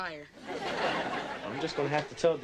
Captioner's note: audience laughing